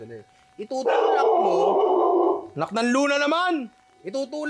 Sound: dog barking

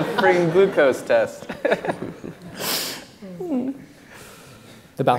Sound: laughs

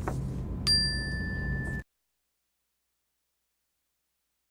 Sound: bell rings

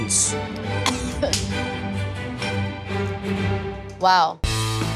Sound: coughs

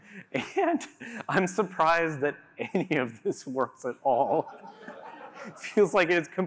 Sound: laughter

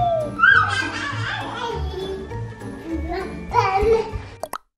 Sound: babbles

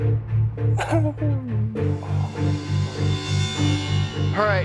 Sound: chuckling

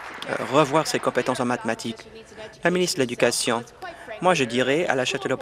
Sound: applause

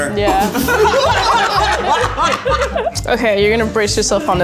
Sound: everyone laughing

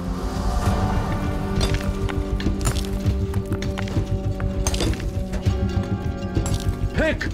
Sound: hammering

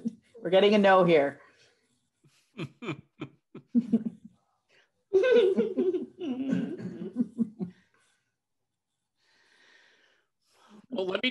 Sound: laughter; laughter

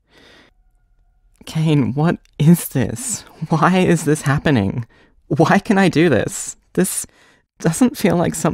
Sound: tearful

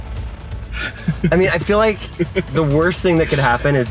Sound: laughing

